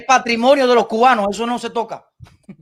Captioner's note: laughs